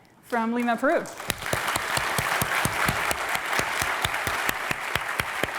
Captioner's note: applause